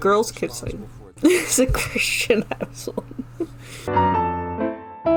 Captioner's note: laughs